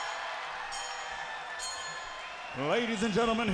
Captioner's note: crowd cheering; bell ringing